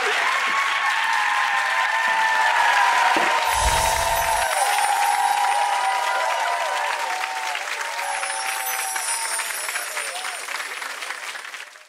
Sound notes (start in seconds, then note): 0.0 applauding; 0.3 cheering; 3.4 wind chimes ringing